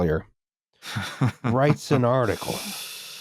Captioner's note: chuckles